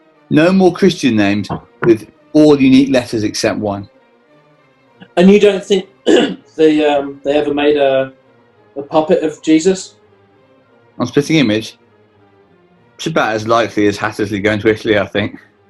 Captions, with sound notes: No more Christian names with all unique letters, except one. And you don't think... [CLEARS THROAT] ...they ever... ...made a puppet of Jesus? On Spitting Image? It's about as likely as Hattersley going to Italy, I think.